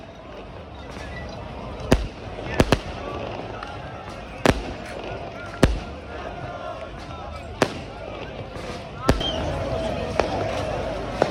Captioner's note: fireworks